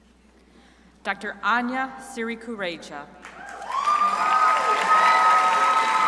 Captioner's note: crowd applauding